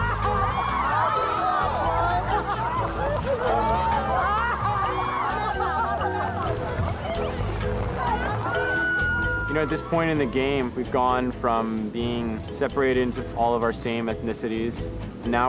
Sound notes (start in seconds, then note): 0.3 upbeat tribal music; 2.6 people cheering and laughing